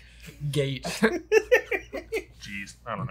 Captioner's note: all laughing